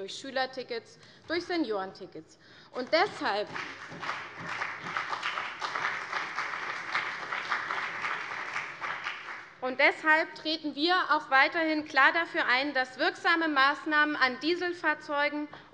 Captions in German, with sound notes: Schülertickets und Seniorentickets. [Beifall CDU und BÜNDNIS 90/DIE GRÜNEN] Deshalb treten wir auch weiterhin klar dafür ein, dass wirksame Maßnahmen an Dieselfahrzeugen